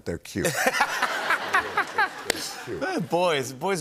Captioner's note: laughter